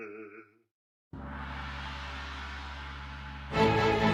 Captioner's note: gong sounds